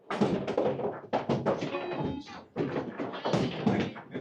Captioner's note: skeeball thudding